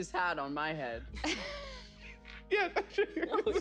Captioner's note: laughs